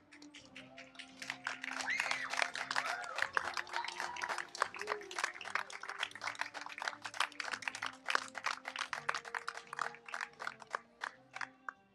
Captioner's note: applause